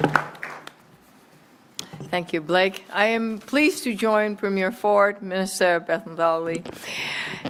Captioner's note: applause